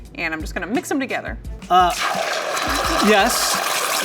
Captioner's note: pan sizzling